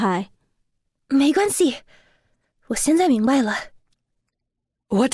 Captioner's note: in Mandarin